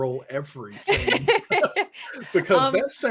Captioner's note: laughs